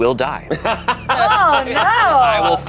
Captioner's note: group laughs